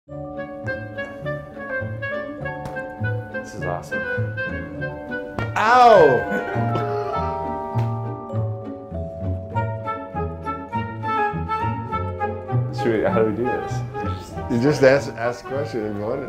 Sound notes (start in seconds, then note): 5.8 laughs